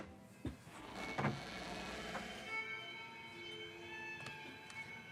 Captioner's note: door creaking